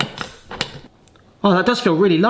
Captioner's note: cartridge hisses gently